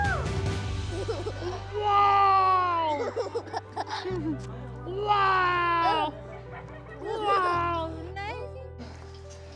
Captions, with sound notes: - (LAUGHS) - Wow! (CHUCKLES) Wow! - (LAUGHS) - Wow, ne?